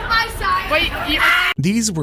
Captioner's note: screams